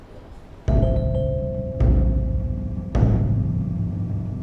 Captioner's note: aggressive doorbell ringing